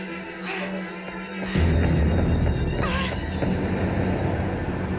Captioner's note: breathing heavily